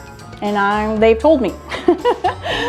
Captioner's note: laughs